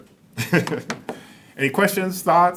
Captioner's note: laughs